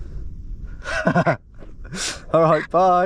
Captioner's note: laughing